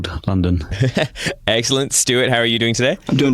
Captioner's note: laughing